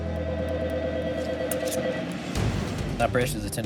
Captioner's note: phone ringing